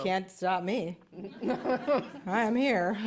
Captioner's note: laughter